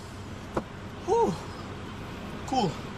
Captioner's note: sighing